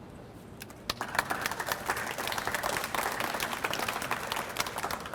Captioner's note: audience applauds